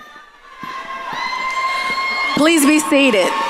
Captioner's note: audience cheering